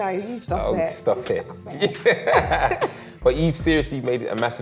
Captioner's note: both laugh